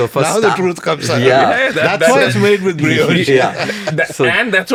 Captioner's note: laughs